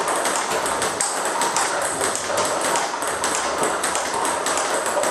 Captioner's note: ball ping pong hitting continues